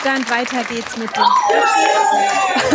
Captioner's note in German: Jubel